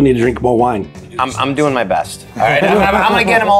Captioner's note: group laughs